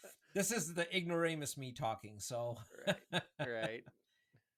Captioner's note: laughs